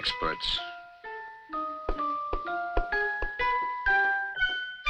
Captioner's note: fingers tapping